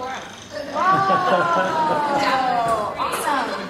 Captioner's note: laugh